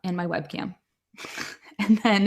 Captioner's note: laughs